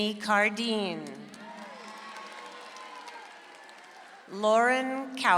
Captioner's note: audience applauds